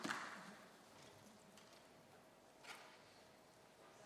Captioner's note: applause